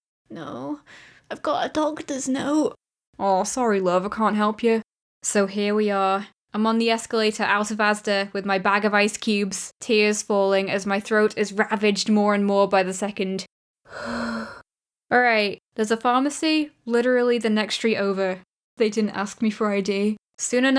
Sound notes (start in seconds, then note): 13.8 inhale